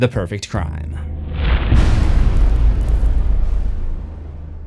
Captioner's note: impact